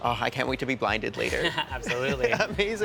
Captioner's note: chuckles